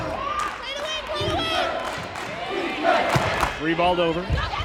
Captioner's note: crowd chanting